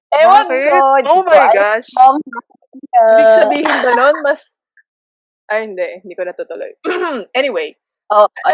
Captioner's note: clears throat